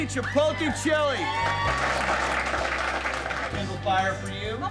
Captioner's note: audience applauding